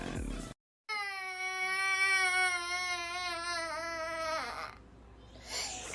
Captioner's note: crying